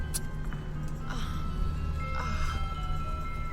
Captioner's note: moans